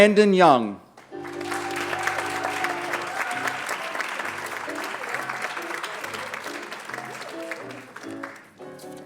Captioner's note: applause